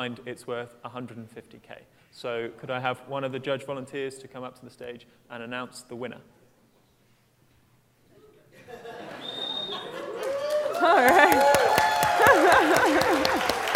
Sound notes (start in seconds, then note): 8.5 laughter; 10.0 applause; 12.1 laughter